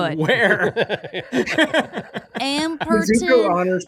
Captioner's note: all laughing